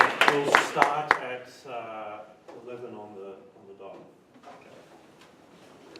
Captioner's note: applause